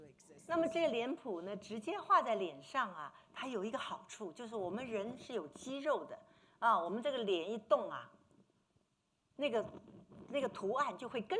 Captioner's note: speaking Mandarin